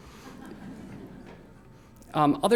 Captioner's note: laughter